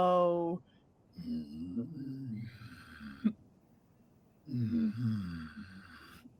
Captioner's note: growling deeply